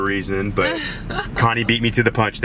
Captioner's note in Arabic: يضحك